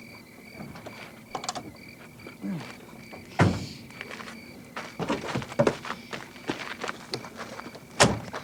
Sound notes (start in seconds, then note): 3.2 doors slamming